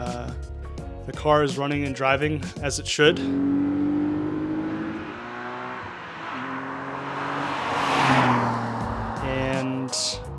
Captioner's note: engine revving